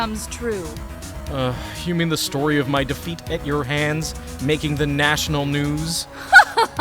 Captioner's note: groan